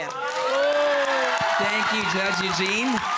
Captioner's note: cheering, applause